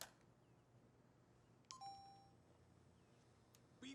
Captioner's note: beeps